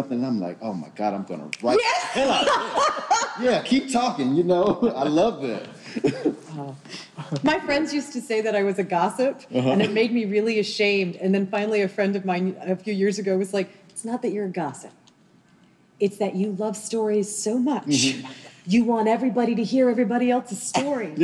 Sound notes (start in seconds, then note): 1.8 group laughing